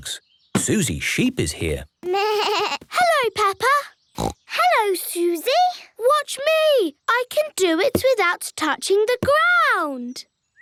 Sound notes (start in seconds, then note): 4.1 snorts